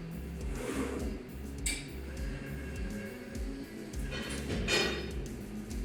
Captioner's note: lathe whirs mechanically